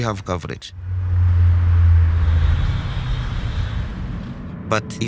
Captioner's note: traffic droning